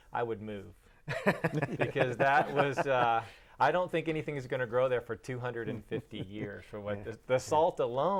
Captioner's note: laughing